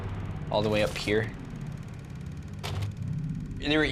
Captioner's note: projector whirring